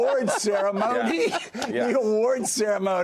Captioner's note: laughter